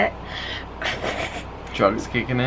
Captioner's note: chuckling